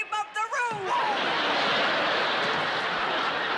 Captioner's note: laughter